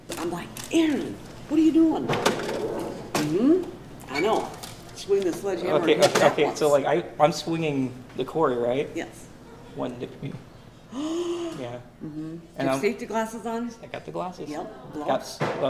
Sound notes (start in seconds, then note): 10.9 worker gasps